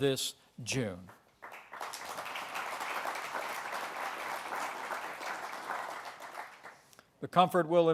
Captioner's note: applause